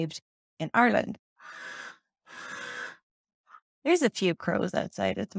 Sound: crow noises

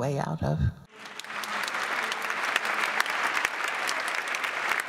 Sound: applause

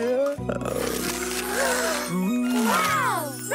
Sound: gasping

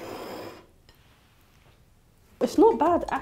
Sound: plate sliding

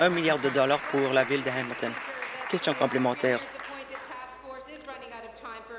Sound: applause

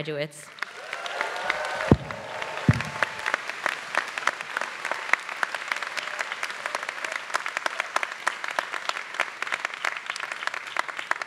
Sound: applause

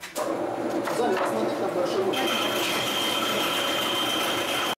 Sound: whir machine

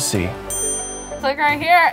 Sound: bell chimes

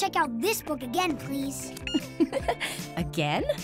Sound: gigglig

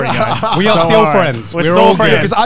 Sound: laughing

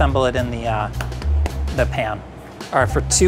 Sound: egg thuds

